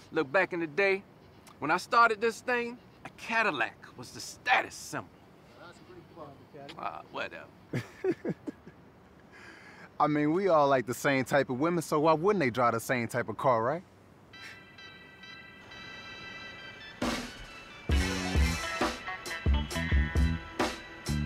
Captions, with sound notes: Look, back in the day when I started this thing, a Cadillac was the status symbol. Whatever. (Bryan laughing) - I mean, we all like the same type of women. So why wouldn't they drive the same type of car, right? (soft music)